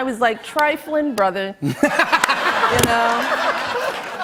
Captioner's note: laughter